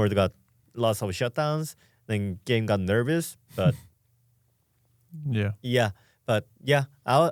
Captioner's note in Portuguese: risos